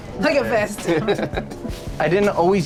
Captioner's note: chuckles